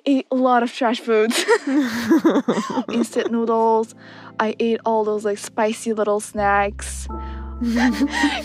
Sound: both laugh

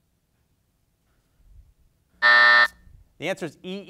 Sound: buzzer sounds

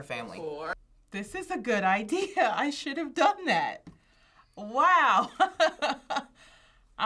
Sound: laughs

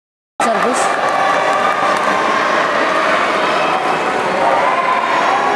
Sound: applause

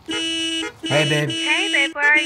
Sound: horn noises

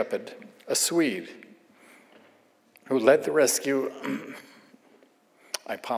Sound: clears throat

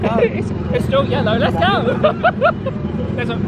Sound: laughs

